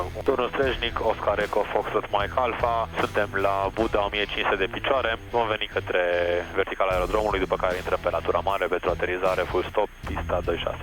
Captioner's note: radio chatter